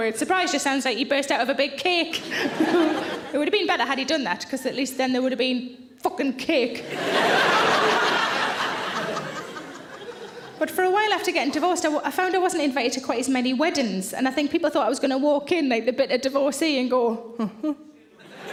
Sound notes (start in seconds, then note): 6.8 audience laughing